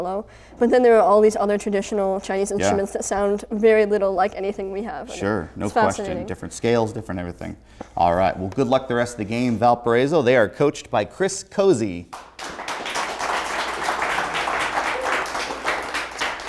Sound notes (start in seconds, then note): 12.1 audience applaud